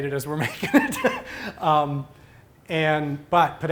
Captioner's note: laughter